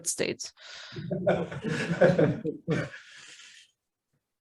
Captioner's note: laughter